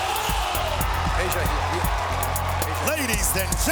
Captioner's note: trumpets; cheers and applause